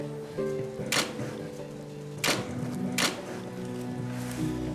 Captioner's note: camera clicking